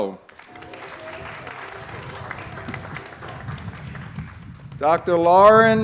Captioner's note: applause